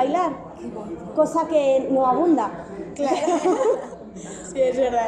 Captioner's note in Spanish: risas